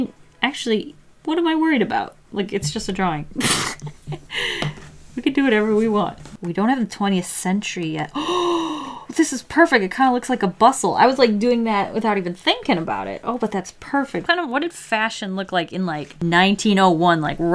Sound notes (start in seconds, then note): 3.4 laughs; 8.2 gasps